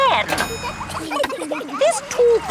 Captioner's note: kids giggling